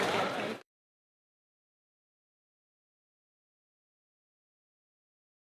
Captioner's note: applause